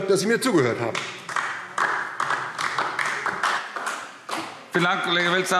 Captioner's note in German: Beifall DIE LINKE